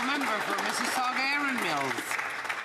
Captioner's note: some Applause